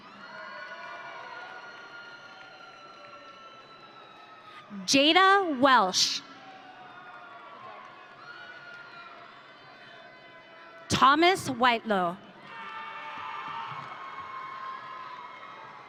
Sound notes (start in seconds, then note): 0.1 audience cheering; 12.4 audience cheering